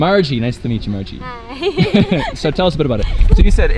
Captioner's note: laughing